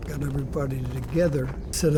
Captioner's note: guns firing